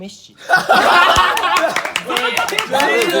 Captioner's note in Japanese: 爆笑